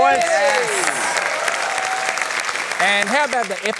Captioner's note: cheering, applause